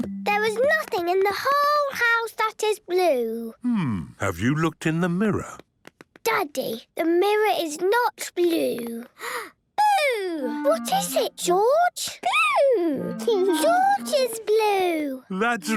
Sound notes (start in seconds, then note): 9.1 gasps